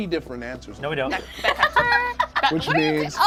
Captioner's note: overlapping chattering